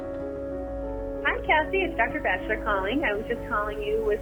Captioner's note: on phone